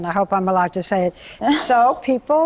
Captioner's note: laughs